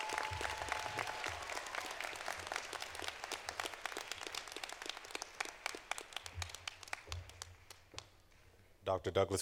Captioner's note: cheers and applause